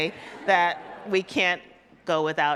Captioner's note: audience laughs